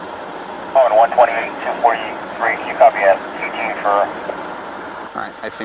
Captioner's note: police radio chattering continues